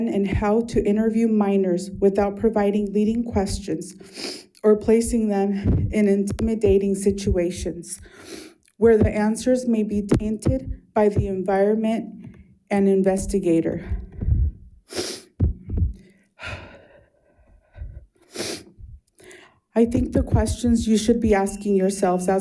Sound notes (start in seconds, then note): 16.4 sighs